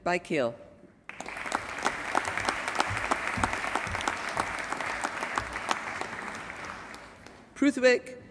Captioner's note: applause